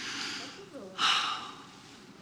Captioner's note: sighs